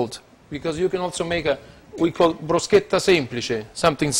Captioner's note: Italian